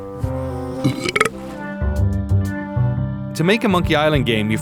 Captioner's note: Guybrush burping